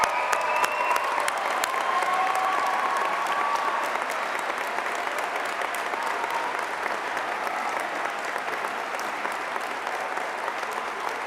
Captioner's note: cheers and applause